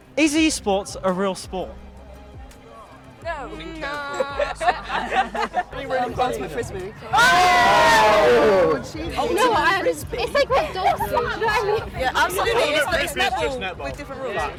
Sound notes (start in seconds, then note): 7.1 cheering